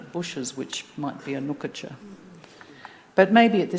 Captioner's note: speaking Anmatyerr